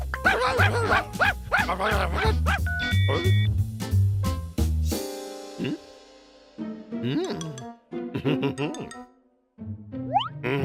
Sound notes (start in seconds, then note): 0.1 barking; 2.7 phone beeps; 8.1 chuckling